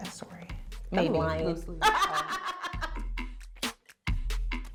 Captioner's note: laughing